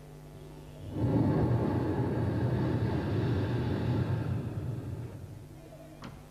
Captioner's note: shri mataji blows into the microphone